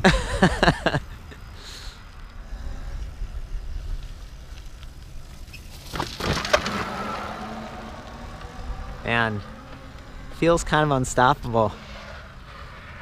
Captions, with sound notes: (laughs) (banging noise) Man, feels kind of unstoppable.